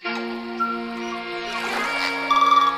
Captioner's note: upbeat music; birds whistle; waves lap